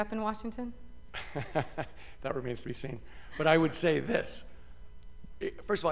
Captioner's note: laughter